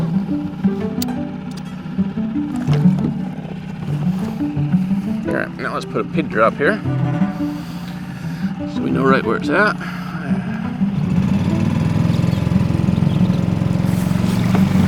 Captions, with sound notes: (lively music) All right, now let's put a pigdrop here so we know right where it's at. (boat whirring)